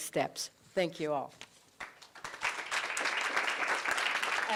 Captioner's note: applause